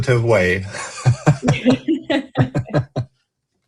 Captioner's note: laughter